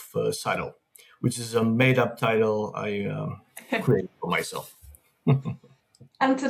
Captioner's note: chuckles